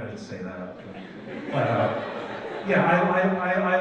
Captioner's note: audience laughs